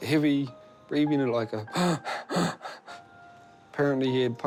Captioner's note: rasps heavily